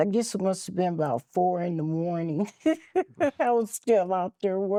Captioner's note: laughing